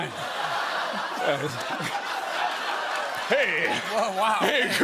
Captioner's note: laughter